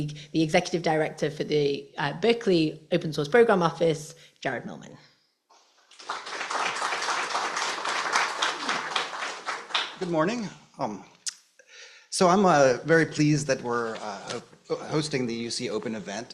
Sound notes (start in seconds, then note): 5.8 applause